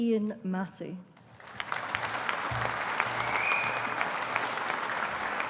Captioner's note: audience applauding